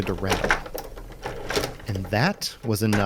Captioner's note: sound of a rattling door handle